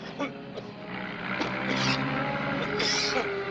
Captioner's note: both coughing